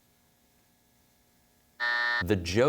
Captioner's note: buzzer sounds